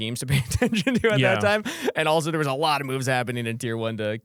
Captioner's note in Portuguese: risos